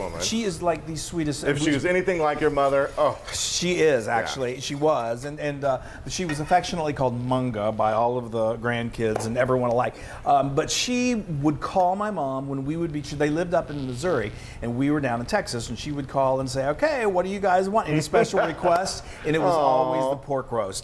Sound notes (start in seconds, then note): 9.0 hands clap; 11.3 hands clap; 17.9 laughing; 18.7 hands claps